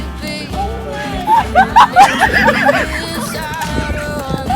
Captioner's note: camera crew laughing